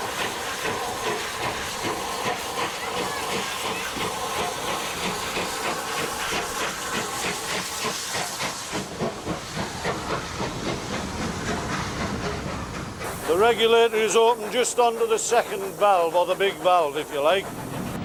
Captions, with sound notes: [train passes by] The regulator is open just onto the second valve or the big valve if you like